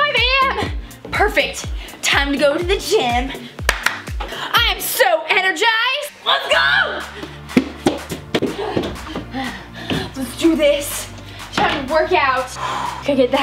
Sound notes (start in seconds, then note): 3.6 clapping